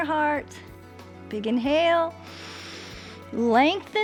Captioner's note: inhales